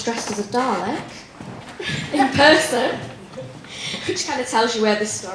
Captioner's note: laughter